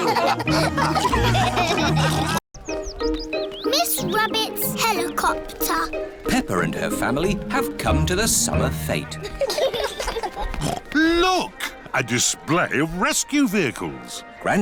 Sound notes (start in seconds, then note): 0.0 all laughing; 9.2 laughter; 10.7 snorts